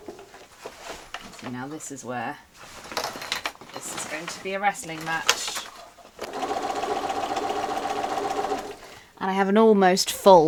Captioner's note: sewing continues; sewing continues